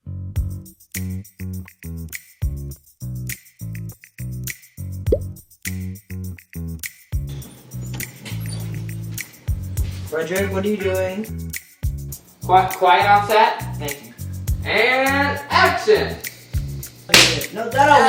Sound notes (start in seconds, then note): 0.1 upbeat bass music; 5.1 popping sound; 17.1 hand slapping chicken